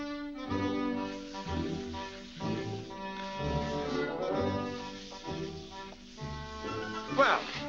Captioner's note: wet scrubbing sounds